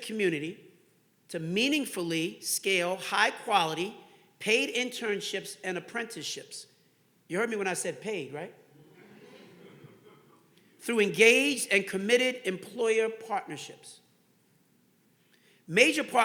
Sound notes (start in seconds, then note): 10.8 audience laughing